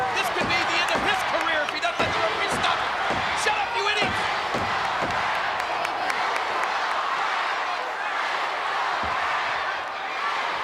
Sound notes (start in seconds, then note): 3.0 crowd yelling; 6.3 crowd yelling